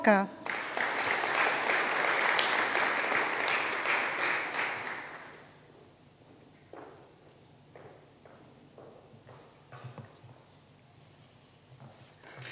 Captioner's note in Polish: oklaski